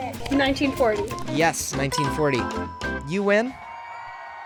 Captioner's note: bell dings; crowd cheering